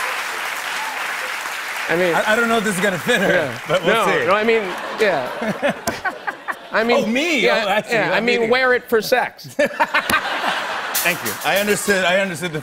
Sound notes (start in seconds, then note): 0.0 cheers and applause; 4.6 laughter; 9.4 laughter